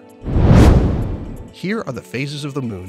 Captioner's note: air whooshing